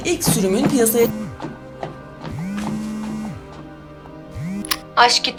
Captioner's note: TV turns off, phone continues vibrating